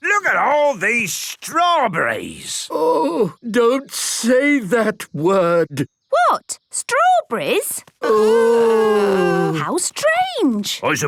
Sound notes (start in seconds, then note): none